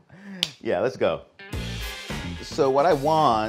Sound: slapping

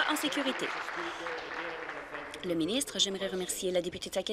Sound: applause

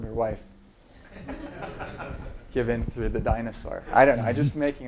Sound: laugh

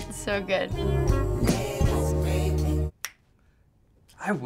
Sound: snaps fingers

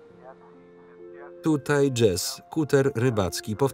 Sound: voices on radio

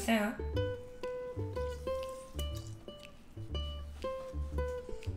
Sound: squeezing

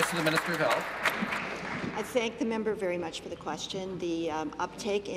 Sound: applause

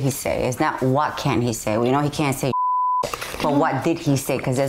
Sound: beep

